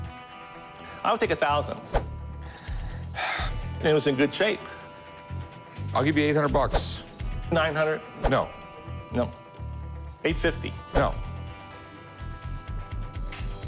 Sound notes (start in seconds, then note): 2.5 sighs